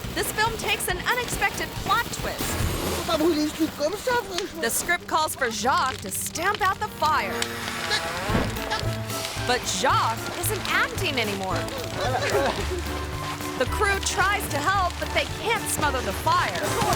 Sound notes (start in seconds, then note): 3.1 speaks in French; 11.9 dramatic instrumental music; 11.9 fire crackles; 16.7 gasps